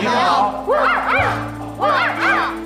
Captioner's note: woof, woof